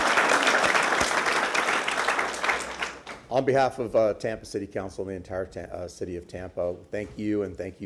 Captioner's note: applause